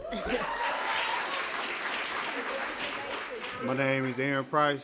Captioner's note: applause